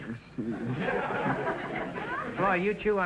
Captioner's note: audience laughter